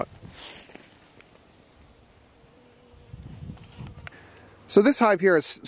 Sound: bees buzzing

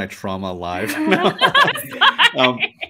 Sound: laugh

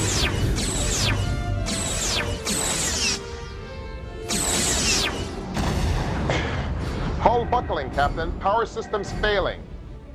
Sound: explosion

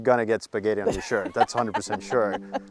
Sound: laughing

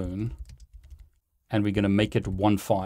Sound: keyboard clanking

